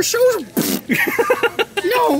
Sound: pfffft

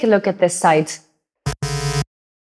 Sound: buzzing noise

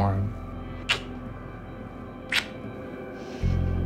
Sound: kissing

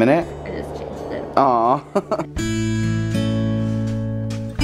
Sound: chuckles; calm guitar music

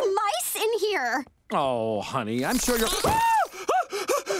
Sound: screaming

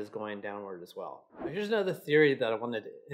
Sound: air whooshes

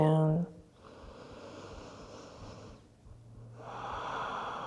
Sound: deep breathing

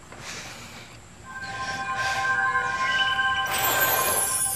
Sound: tinkling

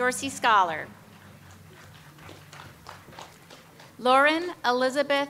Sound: audience applauds

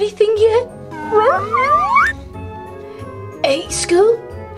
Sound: whimpers

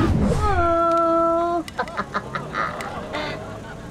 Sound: laughing

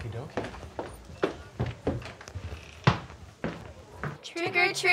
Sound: footsteps clatter

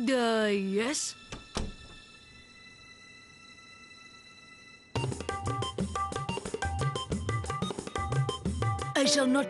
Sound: door closing

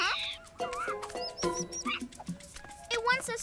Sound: squeaky chittering

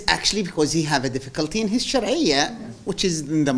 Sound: non-english; non-english

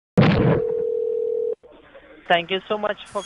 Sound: laughing; phone ringing

